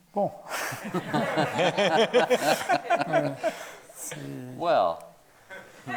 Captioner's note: everyone laughing